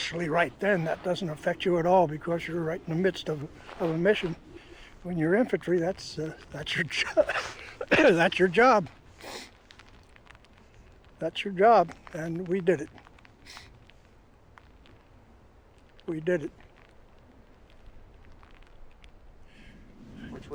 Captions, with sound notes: Initially, right then, that doesn't affect you at all because you're right in the midst of, of a mission. When you're infantry, that's, uh, that's your jo... [coughs] ...that's your job. [sniffles] That's your job, and we did it. [sniffles] We did it.